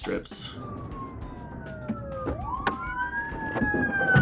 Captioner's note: sirens wailing